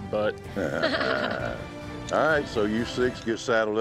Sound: all laughing

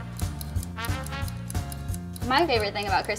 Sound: timer ticking

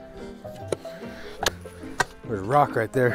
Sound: soft music; bar hitting a rock

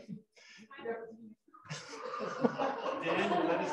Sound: laughter

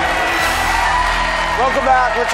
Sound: applause

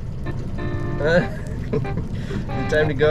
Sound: laughs

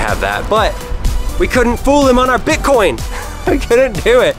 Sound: laughs

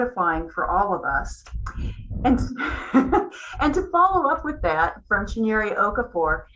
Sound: laugh

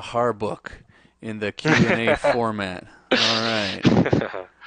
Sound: laughs

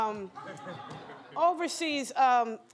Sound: laughter

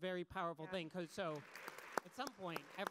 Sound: audience applause

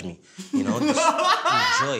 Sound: guffaws

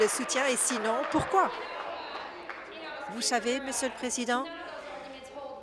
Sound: applause

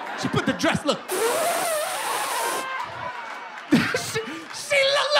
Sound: imitating zipper

